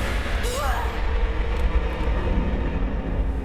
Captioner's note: the Girl is frightened and screams